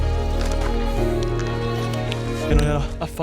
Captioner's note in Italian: sbuffare